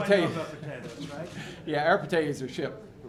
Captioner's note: laughter